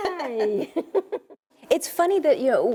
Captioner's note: laughs